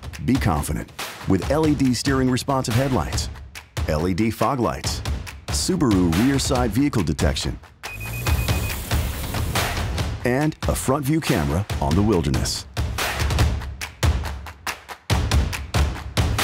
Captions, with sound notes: Be confident, with LED steering-responsive headlights, LED fog lights, Subaru Rear/Side Vehicle Detection, [beeps] and a front-view camera on the Wilderness.